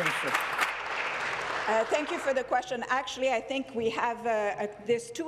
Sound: applause

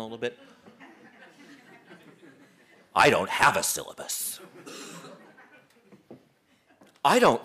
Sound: laugh

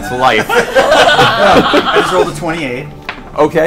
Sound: all laugh

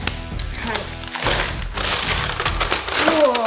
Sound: paper crinkling

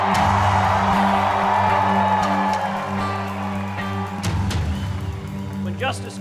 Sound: cheering

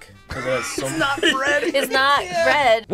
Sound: laughs

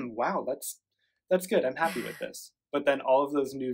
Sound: laughs

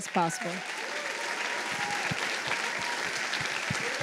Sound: applause

